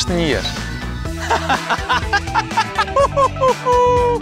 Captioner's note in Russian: смеётся